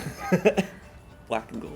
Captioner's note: laughs